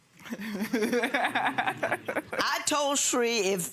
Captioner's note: laughs; audience chuckles